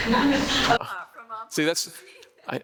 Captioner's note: laughing